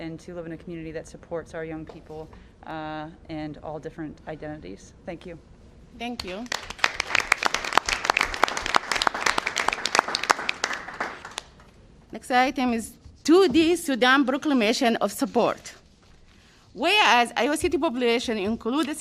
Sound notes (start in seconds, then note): 9.0 applause